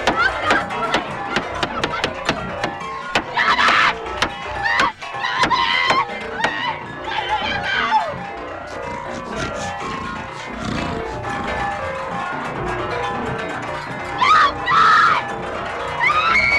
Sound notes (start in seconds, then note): 3.4 screams; 8.7 Buddy snorting; 14.1 screaming